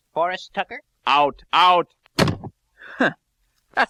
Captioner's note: door slams